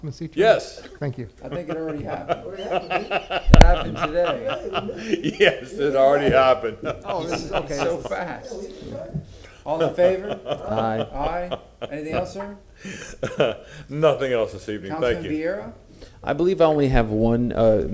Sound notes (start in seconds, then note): 9.7 laughter